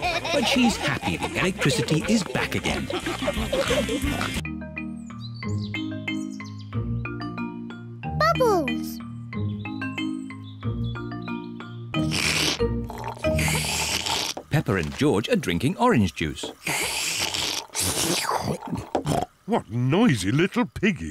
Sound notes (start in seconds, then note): 3.2 all giggling and snorting; 12.8 both slurping; 16.6 both slurping